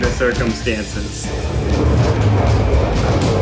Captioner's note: whirring